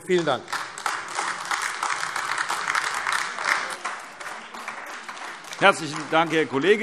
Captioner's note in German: Beifall AfD